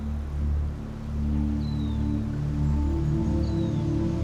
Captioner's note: intense droning sound